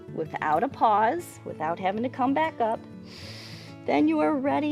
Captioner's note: inhales